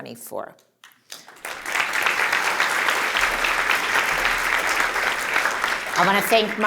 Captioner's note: applause